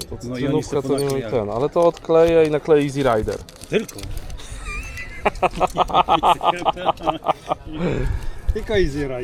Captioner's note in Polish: śmiech